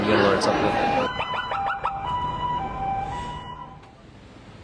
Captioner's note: sirens